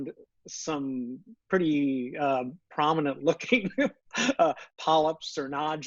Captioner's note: laughs